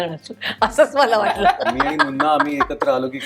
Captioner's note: chuckles